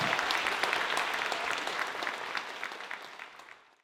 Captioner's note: applause